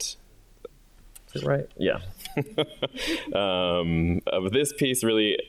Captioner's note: chuckles